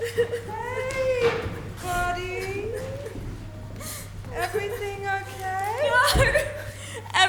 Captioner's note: Smee sniffling